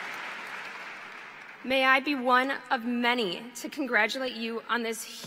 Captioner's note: applause